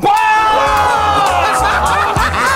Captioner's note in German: Jubel, Lachen; Lockere Musik